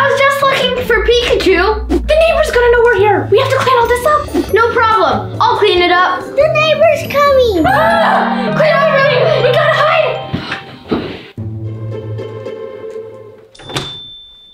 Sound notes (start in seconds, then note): 7.8 screaming; 11.5 suspicious music